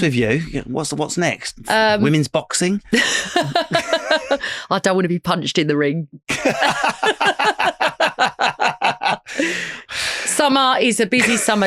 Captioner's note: lauging